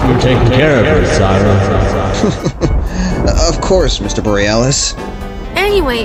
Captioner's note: threatening; nervously Chuckles